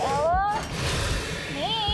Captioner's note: Sparky hissing noises